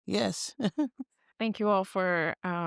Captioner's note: chuckles